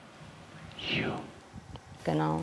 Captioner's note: whispering